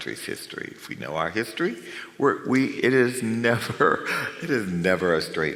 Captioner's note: chuckles